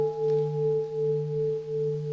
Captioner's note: the sound of the bell